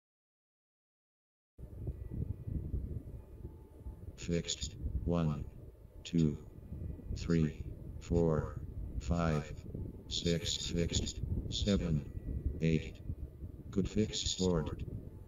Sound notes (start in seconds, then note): 4.2 robot voice